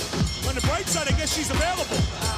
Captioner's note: bell ringing